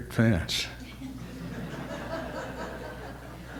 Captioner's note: audience laughter